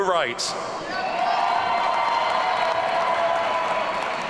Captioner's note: audience cheering